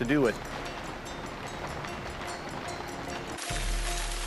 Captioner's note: rain falling